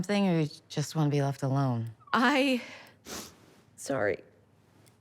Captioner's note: sniffles